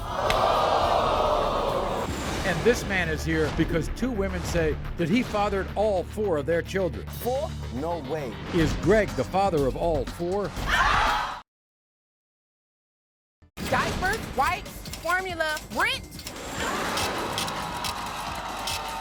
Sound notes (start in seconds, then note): 0.0 audience oohs; 10.7 audience yells; 16.5 scratching